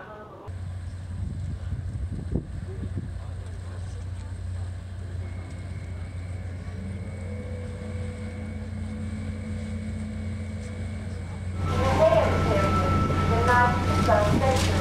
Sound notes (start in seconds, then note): 7.8 boat engine revving